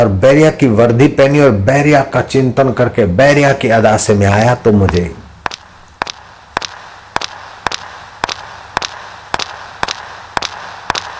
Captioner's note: boots clicking and salutes